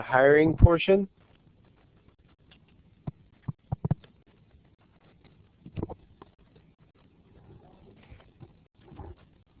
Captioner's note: pause